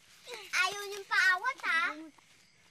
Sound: boys grunting

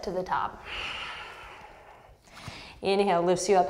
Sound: deep breath

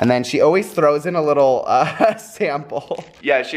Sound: laughs

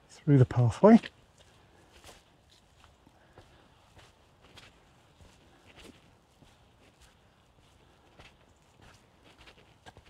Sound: footsteps

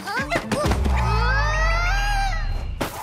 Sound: grunts

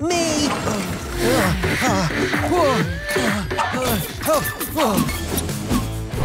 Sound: grunting

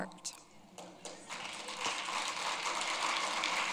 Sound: applause

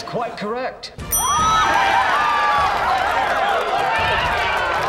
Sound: cheering, applause

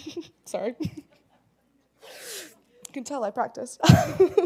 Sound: laugh; laugh

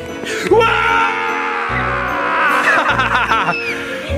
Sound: laughs

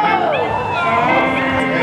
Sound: chatter

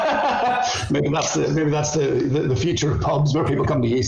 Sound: laughs

